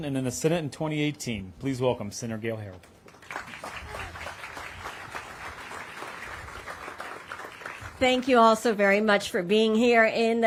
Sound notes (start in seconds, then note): 2.8 applause